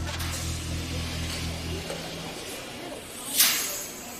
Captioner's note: inmates chattering